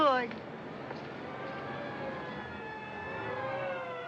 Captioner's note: sirens Blaring